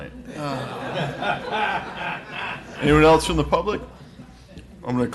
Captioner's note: laughing